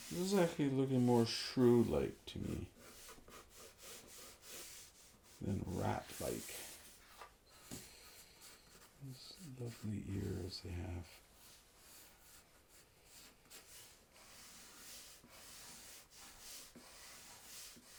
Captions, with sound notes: This is actually looking more shrew-like to me than rat-like. These lovely ears they have. (pencil scratching)